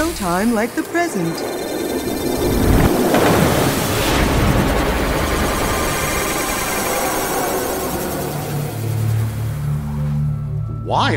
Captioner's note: machine noise